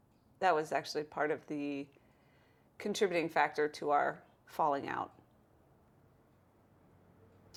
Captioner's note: none